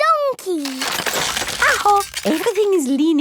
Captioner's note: house creaking